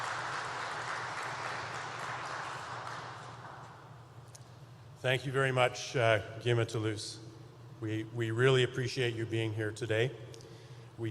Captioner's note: applause